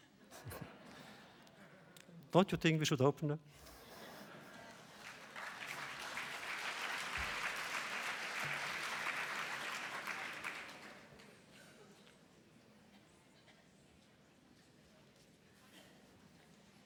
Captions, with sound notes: (laughter) Don’t you think we should open them? (audience applause)